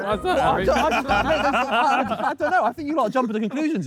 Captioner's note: Sidemen laugh